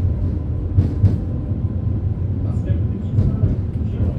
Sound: tram rattling

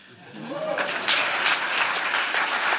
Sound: applause

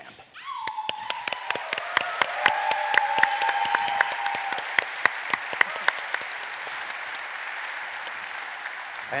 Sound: applause

